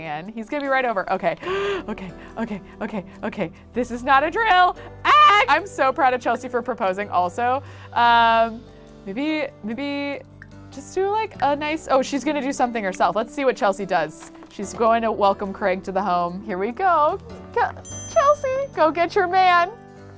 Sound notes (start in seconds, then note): 1.4 gasps; 5.0 yells